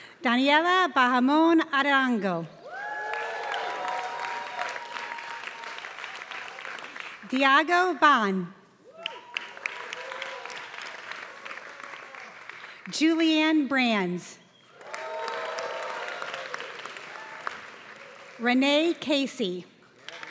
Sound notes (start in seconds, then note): 2.7 applause; 8.9 applause; 14.7 applause; 20.0 applause